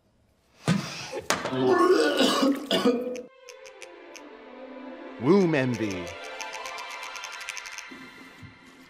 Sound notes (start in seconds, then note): 1.5 Max vomits; 3.1 uplifting music